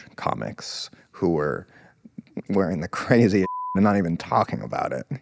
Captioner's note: beep